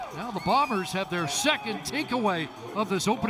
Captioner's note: whistle